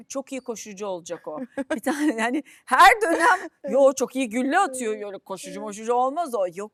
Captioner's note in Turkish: kahkaha